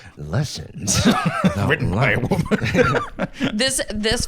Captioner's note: laughs